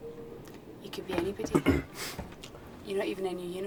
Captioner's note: Theo coughs